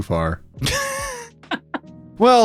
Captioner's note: laughing